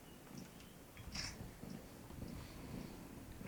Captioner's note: camera shutter